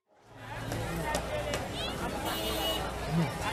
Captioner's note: bustling streets